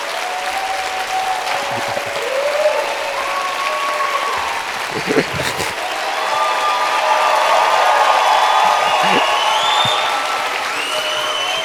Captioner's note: applause